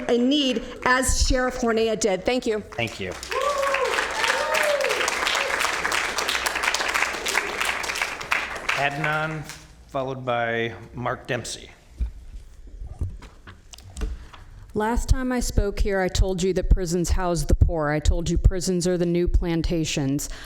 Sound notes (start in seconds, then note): 6.4 applause